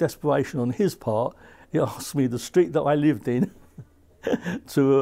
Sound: laughs

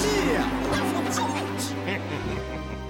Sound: chuckles

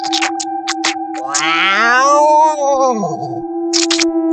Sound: Mechan Yelling

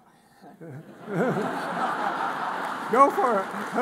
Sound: audience laughs

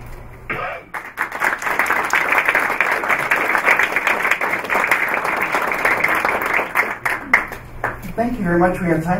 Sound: applause

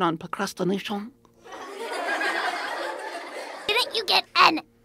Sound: laughter

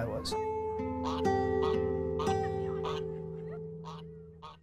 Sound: duck quacking

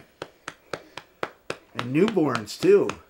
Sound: patting baby back

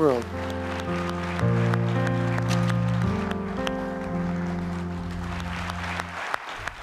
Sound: soft music; audience clapping

